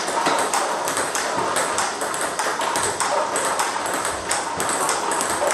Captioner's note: ball ping pong hitting continues